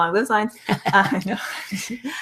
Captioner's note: laughs